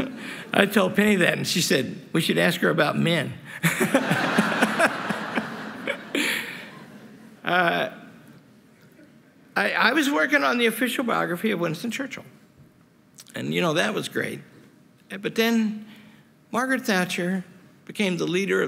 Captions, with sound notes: I told Penny that, and she said, we should ask her about men. [LAUGHTER] I was working on the official biography of Winston Churchill. And you know, that was great. But then Margaret Thatcher became the leader